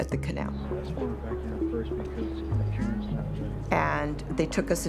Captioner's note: talking softly